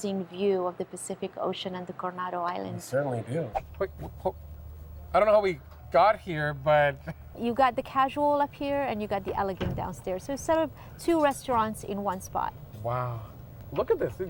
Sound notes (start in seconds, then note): 4.4 whoosh sound effect